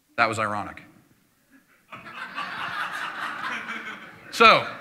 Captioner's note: laughter